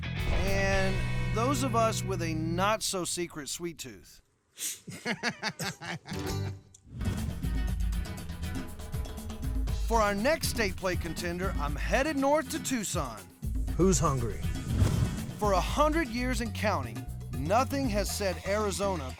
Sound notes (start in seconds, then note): 4.3 blows; 4.8 laughing